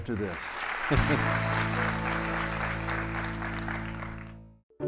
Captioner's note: audience clapping